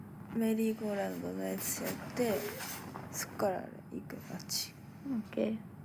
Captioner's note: speaking in foreign language